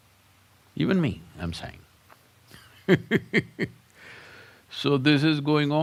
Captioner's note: laughs